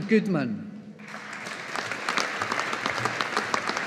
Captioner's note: audience applauding